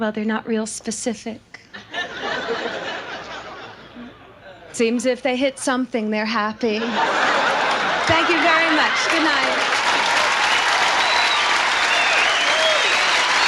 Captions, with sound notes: their not real specific. (audience laughs) It seems, if they hit something, they're happy. (audience laughs) Thank you, very much. Good night. (audience applauds)